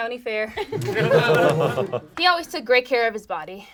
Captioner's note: group laughs